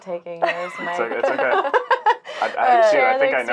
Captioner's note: laughing